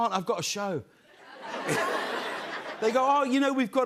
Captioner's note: laughter